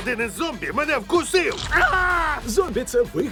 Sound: screams

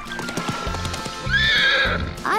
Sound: neighing

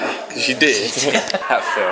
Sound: hh h h

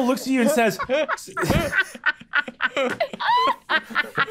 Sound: players laughing

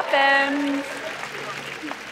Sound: applause

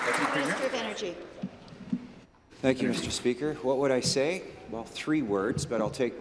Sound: applause

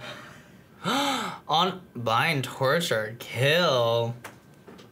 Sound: gasps

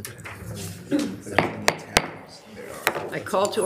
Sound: gavel tapping

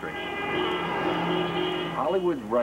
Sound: car honking

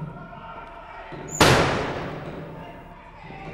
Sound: peep hole shuts

